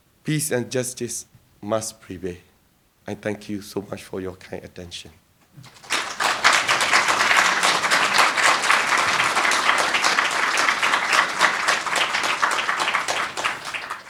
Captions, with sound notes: Peace and justice must prevail. I thank you so much for your kind attention. (crowd applauding)